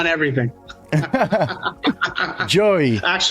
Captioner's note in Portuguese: risadas